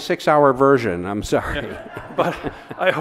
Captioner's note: audience laughs